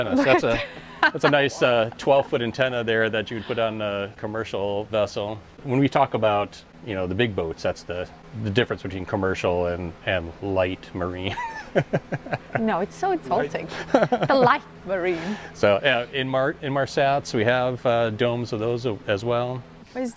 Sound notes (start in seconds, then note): 11.3 laughing